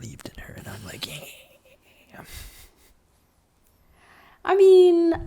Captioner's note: evil laughing